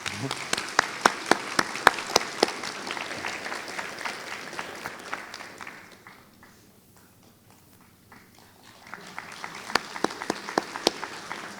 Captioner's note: applause